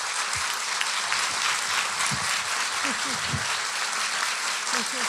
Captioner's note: audience applauding